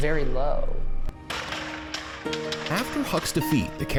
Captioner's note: gunshots cracking